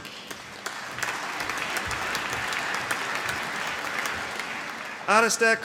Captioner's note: applause